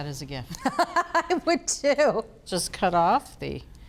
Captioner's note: laughs